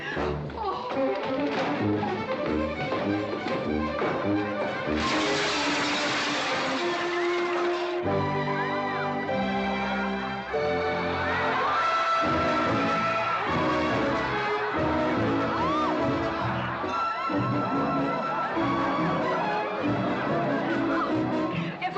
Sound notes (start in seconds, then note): 0.1 dramatic chase music; 4.9 window breaking; 8.1 amused crowd noises